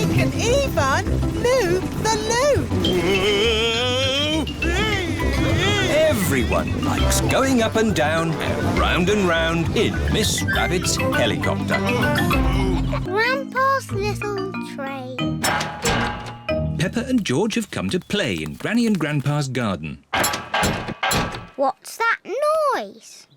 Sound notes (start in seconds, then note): 5.0 screaming; 20.1 clattering and clanging